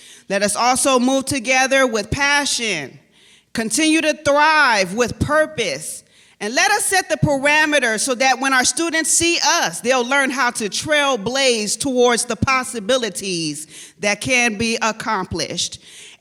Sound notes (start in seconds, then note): none